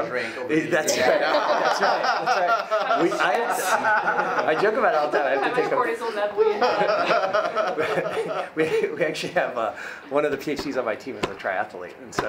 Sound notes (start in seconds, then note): 2.2 many laughing; 5.4 woman's speech drowned out by laughing